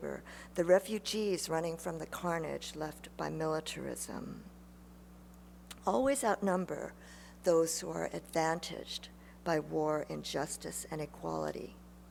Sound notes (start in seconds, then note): none